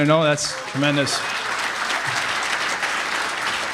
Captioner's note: applause